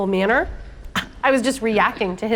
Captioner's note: scoffing